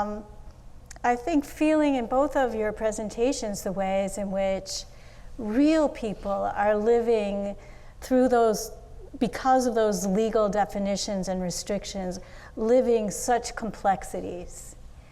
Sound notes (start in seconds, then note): none